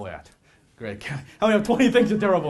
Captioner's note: laughs